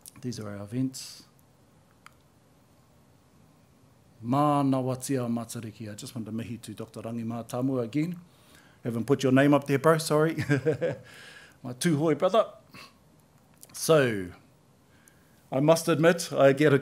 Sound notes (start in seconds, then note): 12.7 laughs